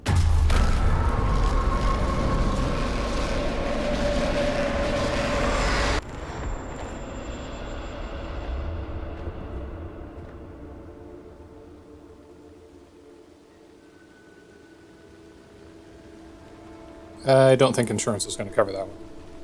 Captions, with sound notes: [otherwordly portal noises] [tinnitus flashbang] [Nature ambience] I don't think insurance is gonna cover that one.